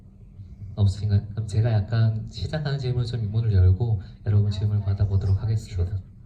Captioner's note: speaks in foreign language